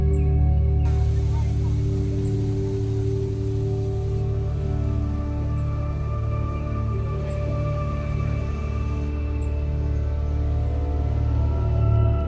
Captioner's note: music and sounds of waterfalls